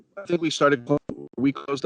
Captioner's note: speech distorting